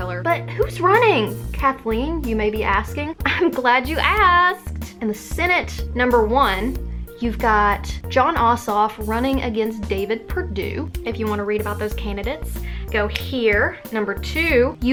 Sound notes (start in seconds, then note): 13.3 snap